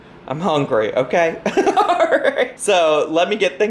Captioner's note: laughs